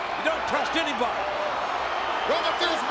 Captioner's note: audience cheers